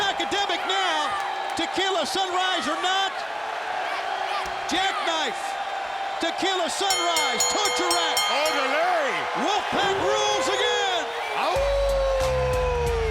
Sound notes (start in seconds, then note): 6.8 bell rings; 10.3 wolf howls